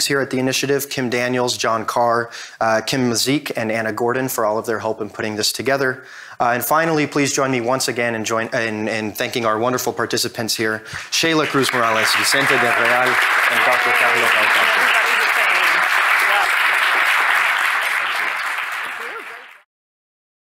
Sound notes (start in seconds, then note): 14.3 audience applauding